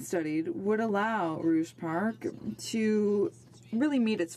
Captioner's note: speaking in French